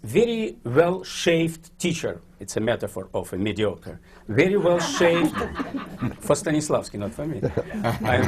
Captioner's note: laughter